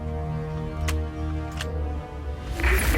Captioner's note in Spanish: Sonido al cargar el arma